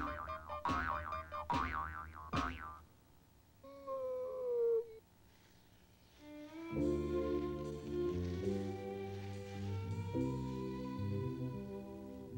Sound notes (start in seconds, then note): 3.7 seal crying